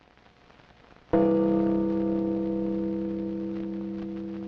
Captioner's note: bell ringing